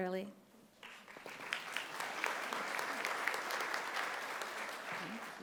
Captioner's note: audience applauding